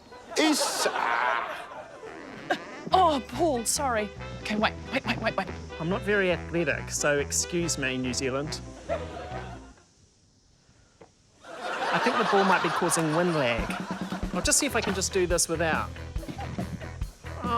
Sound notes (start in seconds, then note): 2.6 grunts; 11.4 laughter